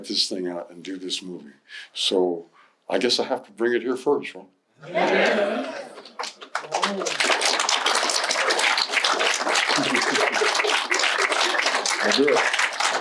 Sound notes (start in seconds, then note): 4.8 audience agreeing loudly; 9.0 applause